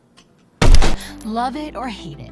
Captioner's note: loud gun shot